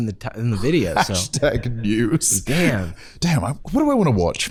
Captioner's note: laughing